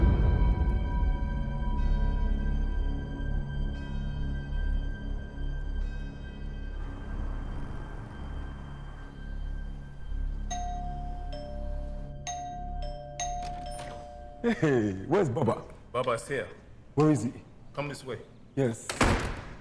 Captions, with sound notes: (deep ominous music) (cars whooshing) (door bell chiming) - Hey, (laughing) where's Baba? - Baba is here. - Where is he? - Come this way. - Yes.